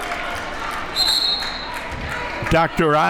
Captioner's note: whistle blows